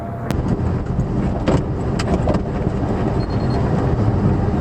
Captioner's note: engine, air conditioner blower motor on "high", Interior rattle sounds